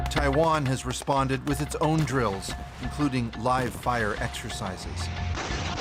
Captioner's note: speaking alternate language